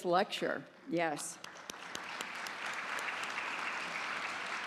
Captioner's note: applause